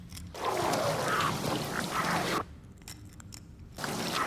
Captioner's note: strong winds